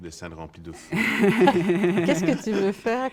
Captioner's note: laughter